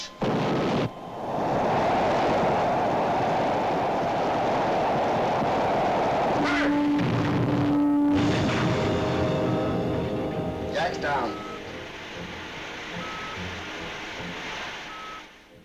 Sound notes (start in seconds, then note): 0.2 engine roars; 5.8 crashing sound; 6.0 alarm sounds; 12.6 hissing sound